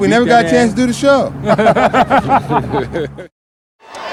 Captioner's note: laughter